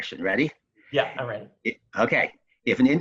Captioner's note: chuckles